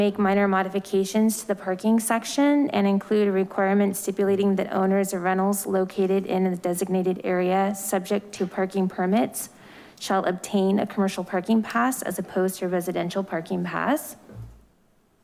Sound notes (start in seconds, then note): none